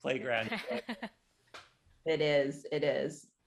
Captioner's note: laughing